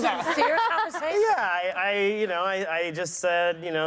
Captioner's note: laughter